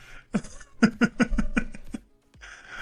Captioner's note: laughs